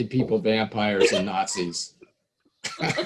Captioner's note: laughing